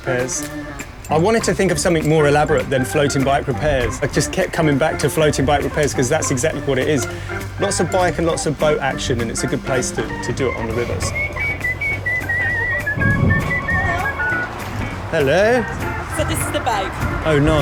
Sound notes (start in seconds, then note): 11.4 whistling